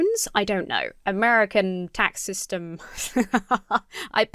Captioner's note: laughs